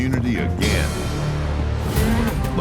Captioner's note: bell rings